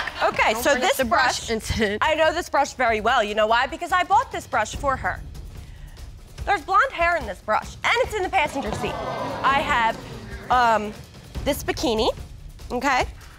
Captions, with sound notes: Okay. So, this brush-- I know this brush very well, you know why? Because I brought this brush for her. There's blonde hair in this brush -and it's in the passenger seat. -[audience gasping] I have, um, this bikini, okay?